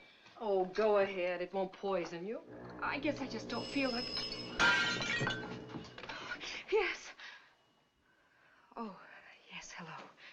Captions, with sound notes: - Oh, go ahead. It won't poison you. - I guess I just don't feel like- - [Phone Ringing] - [Dishes Shattering] Yes? Oh, yes, hello.